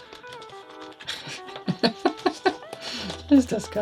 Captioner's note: laughing